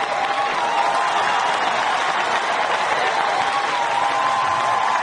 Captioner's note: audience cheering swells